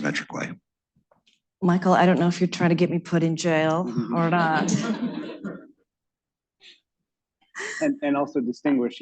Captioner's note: laughter